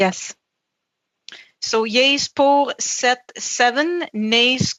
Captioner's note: speaking French